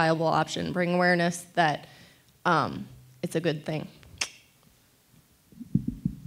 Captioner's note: clicks tongue